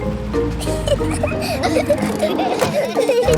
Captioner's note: children giggling